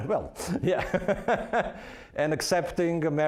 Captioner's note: laughing; chuckling